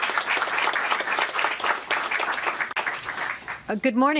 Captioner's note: applause